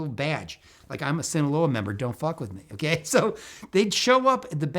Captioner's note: laughs